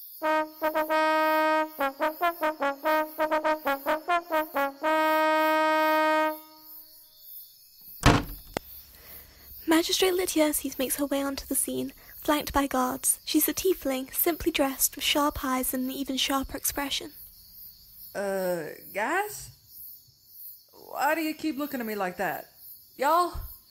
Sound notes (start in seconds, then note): 0.2 fanfare; 7.9 doors open